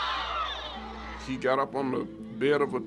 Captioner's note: screams from crowd